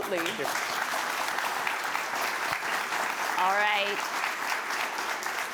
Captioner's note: applause